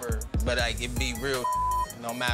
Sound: beep

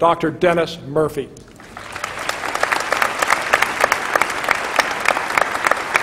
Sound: applause

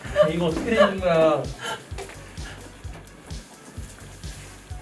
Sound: haha

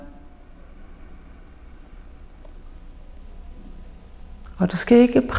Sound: inhales

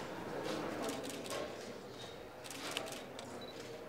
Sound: camera clicks

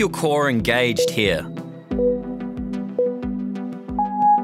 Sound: timer beeping

